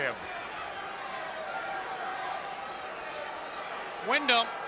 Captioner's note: spectators cheering